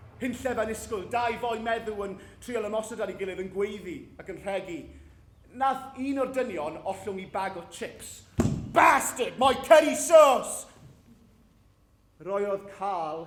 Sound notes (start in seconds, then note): none